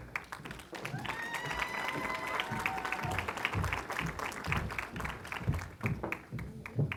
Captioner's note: applause